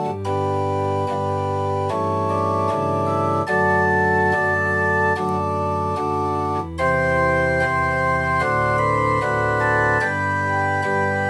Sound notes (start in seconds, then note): none